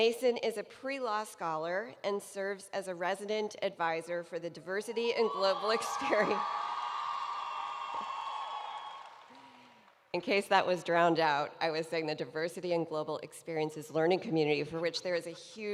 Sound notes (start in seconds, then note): 4.5 chuckling; 5.0 cheering